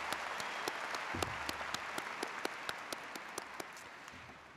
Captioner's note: audience applauds